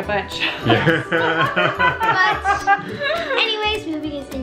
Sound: both laugh

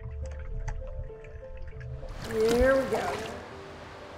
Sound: water sloshing

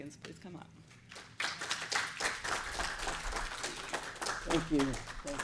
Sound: applause

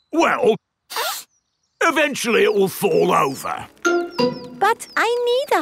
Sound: sniffs

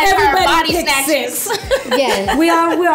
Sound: laughs

